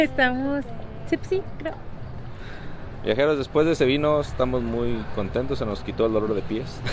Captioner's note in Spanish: risas